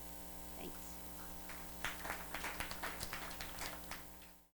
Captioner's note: audience applauds